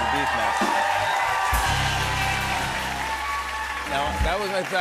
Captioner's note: cheers and applause